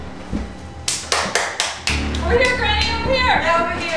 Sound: clapping

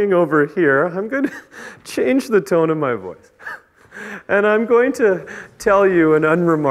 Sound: chuckles

